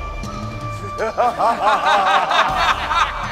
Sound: laughs

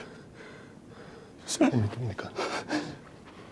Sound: henry whimpers

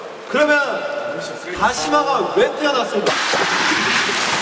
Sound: rubbing

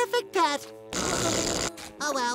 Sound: zapping

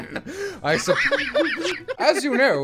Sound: laughter

